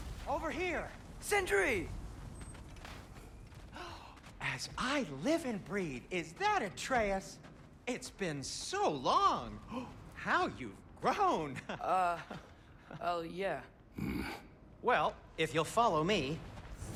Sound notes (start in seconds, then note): 3.8 gasp; 9.3 gasp; 11.6 laugh; 13.9 grunt